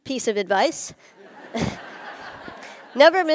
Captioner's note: Khán giả cười